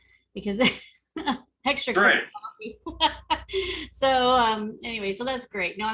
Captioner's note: laughs